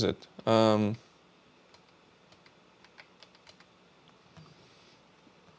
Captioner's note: keyboard clicking